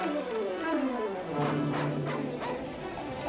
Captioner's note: barking continues